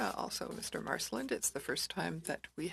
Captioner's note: speaking french